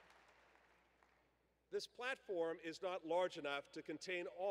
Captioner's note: applause